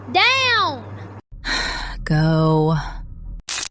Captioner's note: sighs